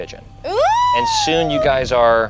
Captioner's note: squeals